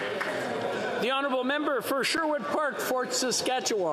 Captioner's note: applause